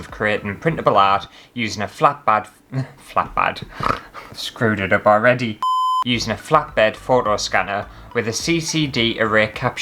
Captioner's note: snort